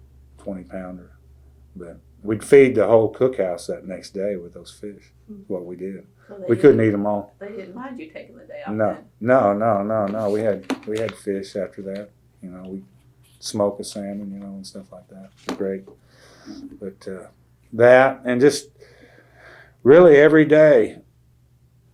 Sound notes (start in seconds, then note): 9.4 laughs